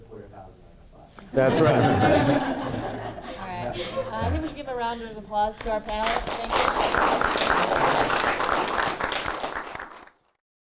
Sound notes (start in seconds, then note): 1.4 laughing; 5.6 applauding